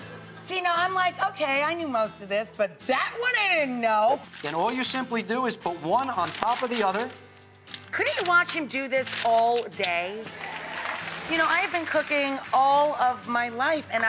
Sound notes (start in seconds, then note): 10.2 audience applauds